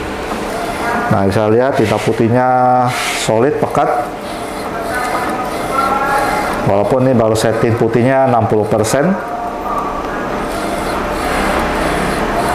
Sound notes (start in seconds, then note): 0.1 printer machine sound; 3.2 distant chattering; 4.6 printer machine sound; 7.5 distant chattering; 10.1 printer machine sound